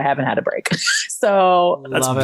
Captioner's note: chuckles